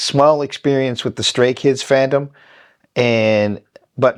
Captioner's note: none